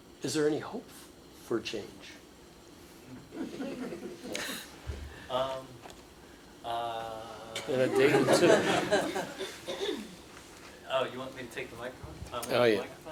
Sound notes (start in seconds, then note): 3.2 laughter